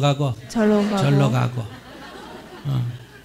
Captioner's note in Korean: 청중 웃음